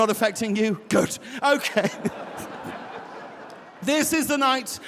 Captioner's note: audience laughing; laughs